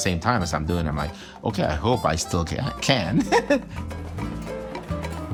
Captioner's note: laughs; lively music continues